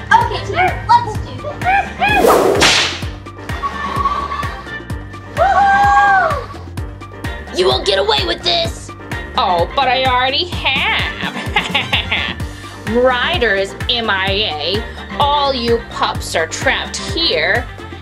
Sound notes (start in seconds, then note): 1.8 gorilla cheering